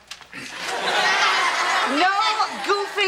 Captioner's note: audience laughs